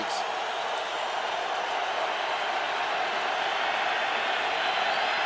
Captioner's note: cheering